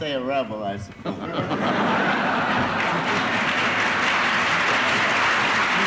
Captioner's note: applause